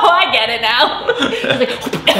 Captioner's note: laughing